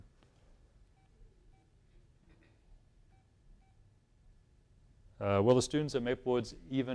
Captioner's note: phone beeps